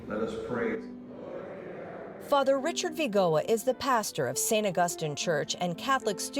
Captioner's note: crowd